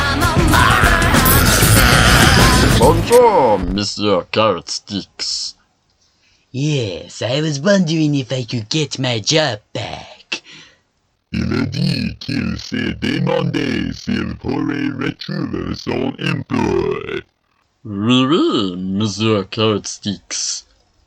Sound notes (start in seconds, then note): 1.2 roars in anger; 6.9 doing his tough guy voice